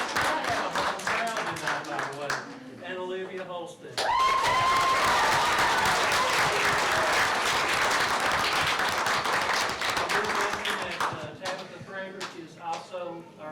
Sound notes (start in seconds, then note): 0.0 applause drowns out speech; 6.5 applause